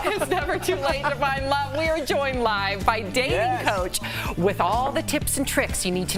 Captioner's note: laughter